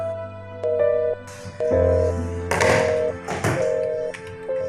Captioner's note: tone of ended call